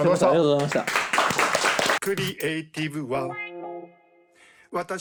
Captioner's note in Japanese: 拍手